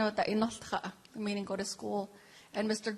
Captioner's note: speaking native language